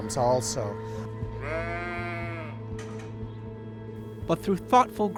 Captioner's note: sheep bleats